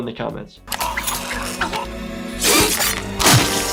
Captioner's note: gargling; squelching